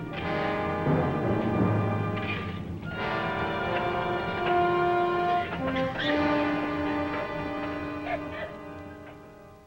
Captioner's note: digging